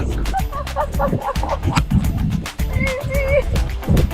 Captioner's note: laughs